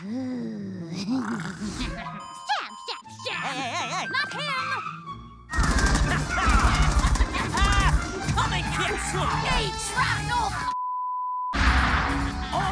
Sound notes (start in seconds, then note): 1.0 laughs; 5.5 gunshots; 10.7 beep